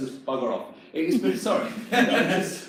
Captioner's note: employees laugh